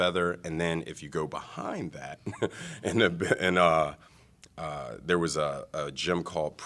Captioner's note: laughter